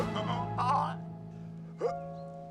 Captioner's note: larry attempting to vomit